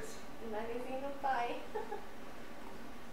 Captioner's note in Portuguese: risos